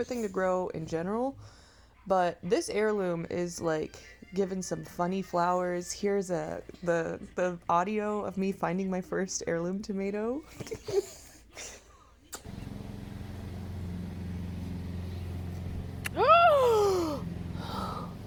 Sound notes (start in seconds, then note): 11.0 GASP* OH HO HO HO! *gross sound; 16.1 laughing at myself